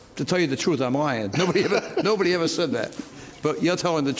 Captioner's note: laughs